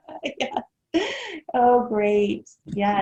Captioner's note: laughing